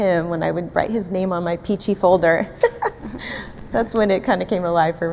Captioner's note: laughs